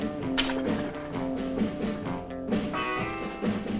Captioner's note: bright upbeat music continues; coin clatters